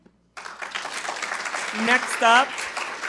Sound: attendees applauding

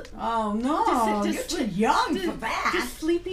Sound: voiceover

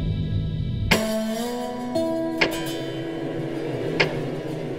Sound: timer ticking down

